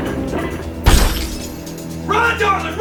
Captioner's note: loud crash; sounds of struggling; loud crash